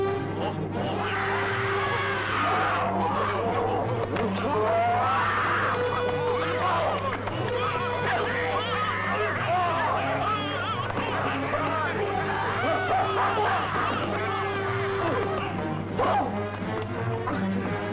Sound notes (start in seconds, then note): 0.2 suspenseful orchestral music; 0.8 ape-like crying; 5.8 men shouting